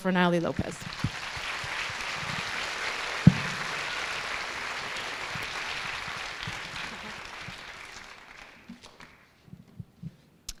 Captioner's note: applause